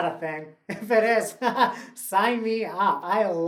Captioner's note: laughs